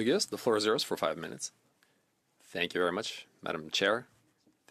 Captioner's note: speaking French